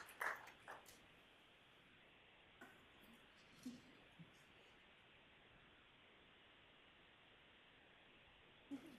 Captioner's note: applause